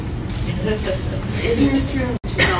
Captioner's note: laughter